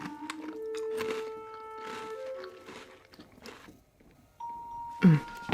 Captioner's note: cookie crunching